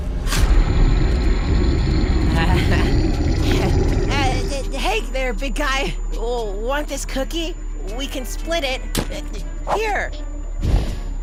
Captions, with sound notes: [GROWLING] [NERVOUS LAUGHTER] H-hey there, big guy! Want this cookie? We can split it! Here! [HUFF]